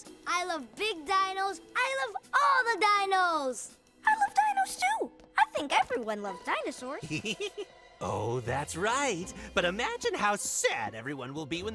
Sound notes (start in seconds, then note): 7.0 giggles